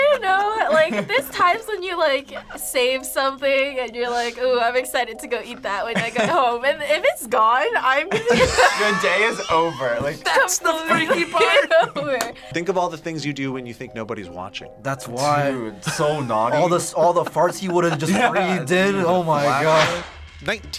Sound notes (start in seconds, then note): 11.7 laughs